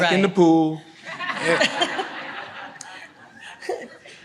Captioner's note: audience laughs